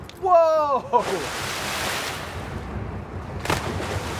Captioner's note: loud splashing